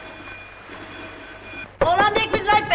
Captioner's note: bell rings